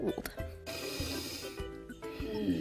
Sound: deeeep inhale; deeep inhale; deep inhale

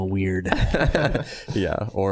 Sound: all laughing

